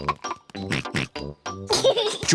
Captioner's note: oinks